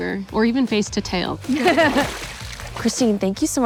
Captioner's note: all laughing